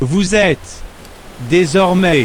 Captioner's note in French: bruit de vagues